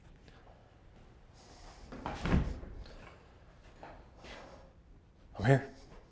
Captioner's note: Arawn breathes uneasily